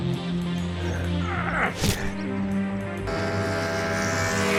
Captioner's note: Santino grunting; fist whacks; motorcycle revving